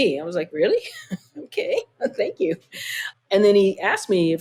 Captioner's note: laughter